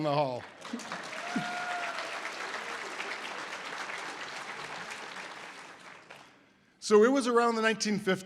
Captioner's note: audience applause